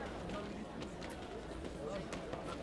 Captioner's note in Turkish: Ayak sesleri